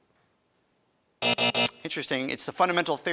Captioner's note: alarm buzzes